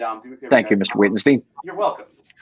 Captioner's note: voice muffling